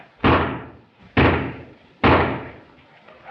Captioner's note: shots firing